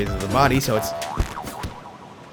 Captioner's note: boioioiong